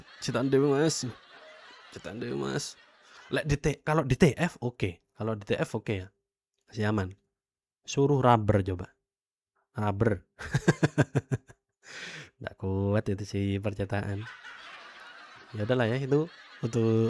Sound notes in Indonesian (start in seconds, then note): 10.7 tertawa